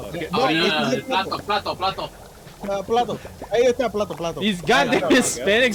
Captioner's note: speaking Spanish